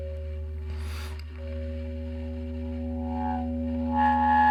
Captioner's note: character inhaling softly; eerie music